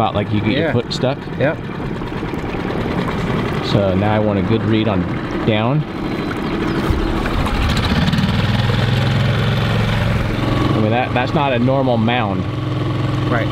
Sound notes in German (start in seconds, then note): 6.6 Boot rumpelt, Vögel zwitschern